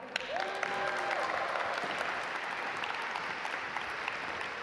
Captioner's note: audience applaud